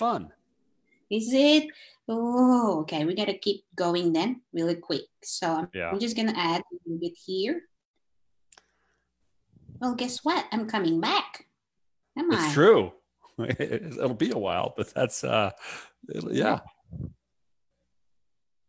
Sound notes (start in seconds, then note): 13.4 laughs